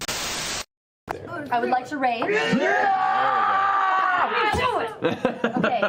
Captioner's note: cheering, again